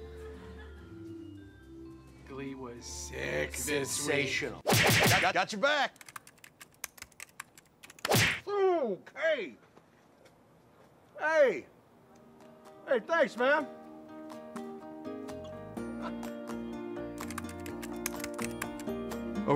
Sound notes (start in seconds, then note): 8.0 slap on back